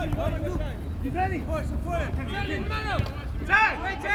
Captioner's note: field chatter